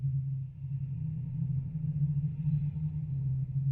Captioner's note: none